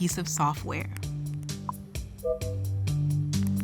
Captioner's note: keys tapping, beeping